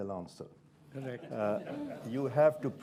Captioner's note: scattered laughter